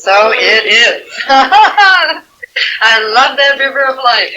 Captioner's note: laughing